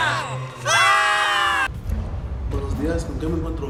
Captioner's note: screams